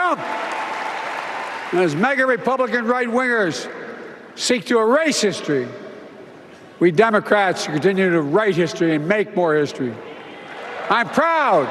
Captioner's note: applause